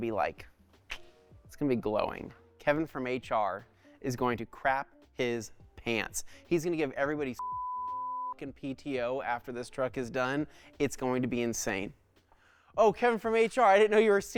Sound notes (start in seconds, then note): 7.4 beep